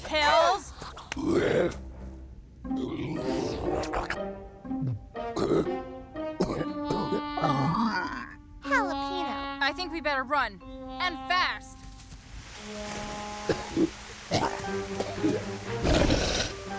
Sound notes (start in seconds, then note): 1.1 growls; 6.4 coughs, wheezes; 14.3 coughs; 15.8 snorts